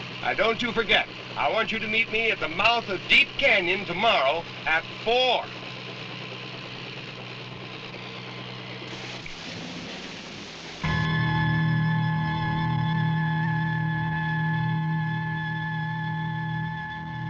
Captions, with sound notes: Now don't you forget. I want you to meet me at the mouth of Deep Canyon tomorrow at 4:00. (helicopter engine running) (dramatic instrumental music)